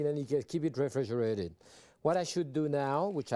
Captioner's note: none